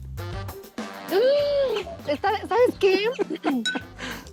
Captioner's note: speaking Spanish; laughing